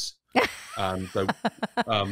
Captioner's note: laughs